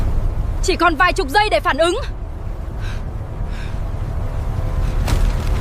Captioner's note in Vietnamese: thở hổn hển